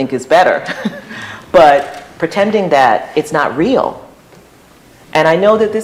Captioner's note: laughter